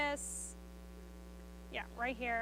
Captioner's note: speaks faintly